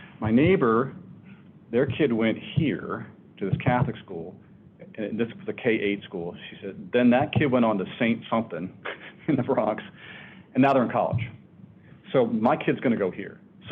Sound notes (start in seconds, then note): 8.8 laughs